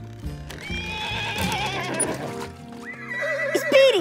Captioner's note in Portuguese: cavalo relinchando